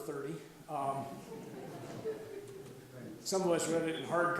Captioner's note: audience laughs